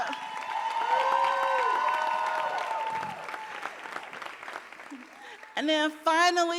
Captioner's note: audience cheering and applauding